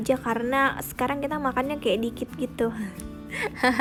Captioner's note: haha